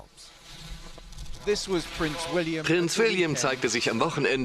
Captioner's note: voiceover